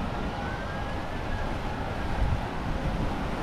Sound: sirens wail

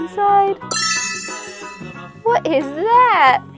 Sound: magical chime

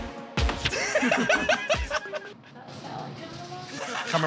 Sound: laughter

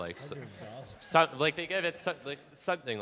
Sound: audience laughing

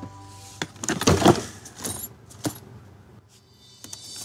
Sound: rustling

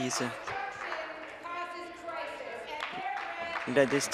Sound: applause

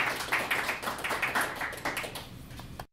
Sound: applause

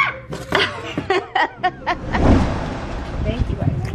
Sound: mom laughs

